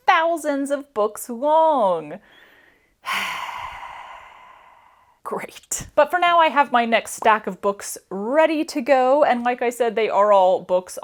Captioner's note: sigh